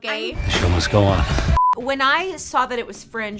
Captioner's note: beep